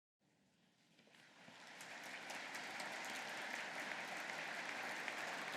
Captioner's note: audience applauding